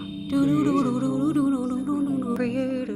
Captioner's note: whispered